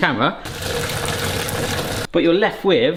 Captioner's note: water glugging